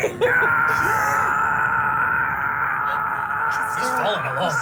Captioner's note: drawn out scream